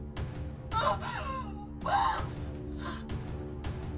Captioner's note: sobbing